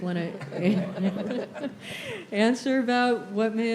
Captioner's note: laughter